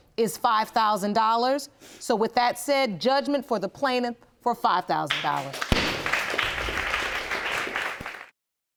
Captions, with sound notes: is $5000. So with that said, judgment for the plaintiff for $5000. (AUDIENCE APPLAUDING)